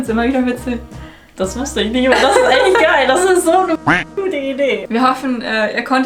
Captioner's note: beeping